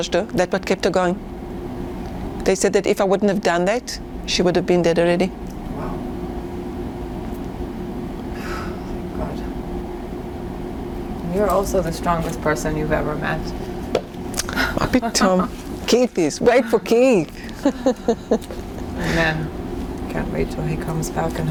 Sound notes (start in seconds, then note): 8.3 sighing; 14.7 hebrew; 17.4 laughing